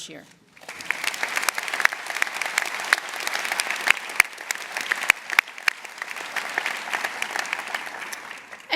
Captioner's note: applause